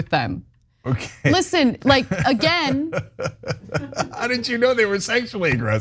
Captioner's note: laugh